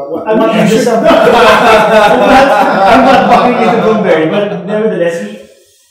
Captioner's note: laughter